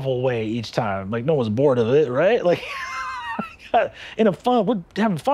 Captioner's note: laughing